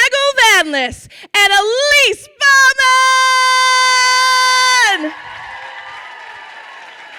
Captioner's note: crowd cheers and applauds